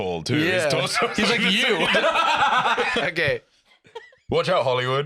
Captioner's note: laughs